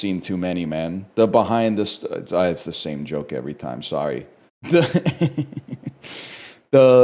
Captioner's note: laughs